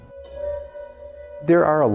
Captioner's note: soft chiming